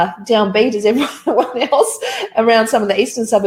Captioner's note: laughs